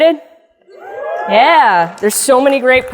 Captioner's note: crowd applauds